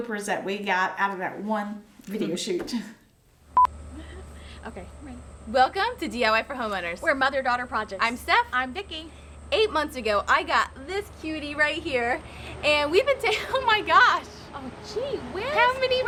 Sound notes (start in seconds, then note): 3.5 beeping